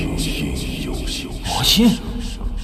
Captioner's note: demon Sound